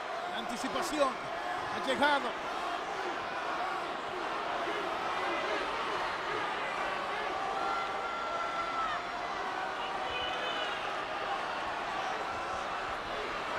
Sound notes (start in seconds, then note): 2.4 applause